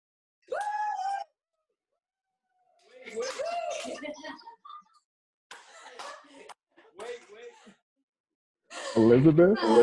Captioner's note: cheers and Laughter